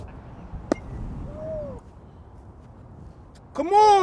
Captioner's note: object thuds